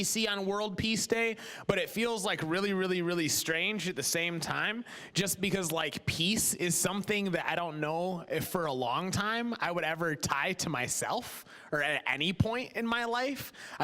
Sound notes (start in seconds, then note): none